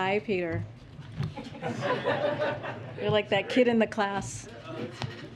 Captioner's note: laughter